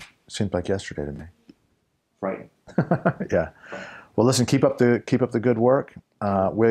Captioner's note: laugh